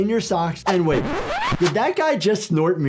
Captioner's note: record scratching